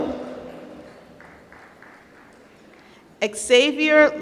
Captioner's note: applause